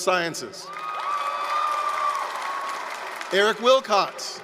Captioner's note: applause, cheering